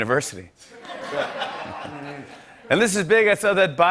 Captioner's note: laughter